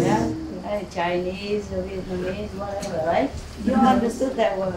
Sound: Vietnamese

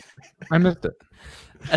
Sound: laugh

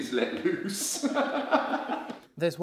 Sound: laughter

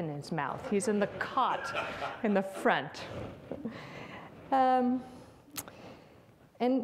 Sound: audience laughs

